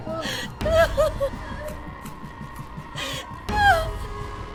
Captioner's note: person crying